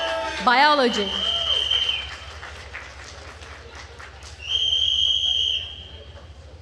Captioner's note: attendees cheering and applauding